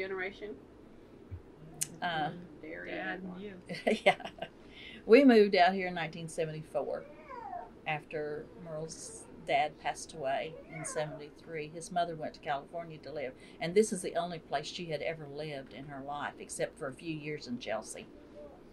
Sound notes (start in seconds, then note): 3.7 laughs